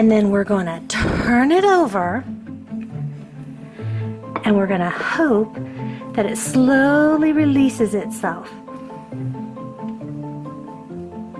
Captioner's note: pop; gasp